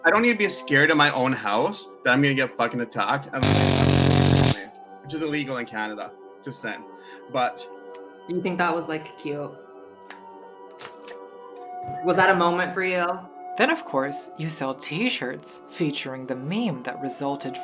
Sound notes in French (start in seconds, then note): 3.4 crépitement électrique